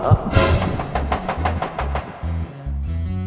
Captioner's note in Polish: pukanie do drzwi